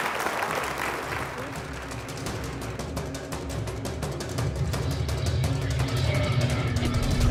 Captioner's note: applause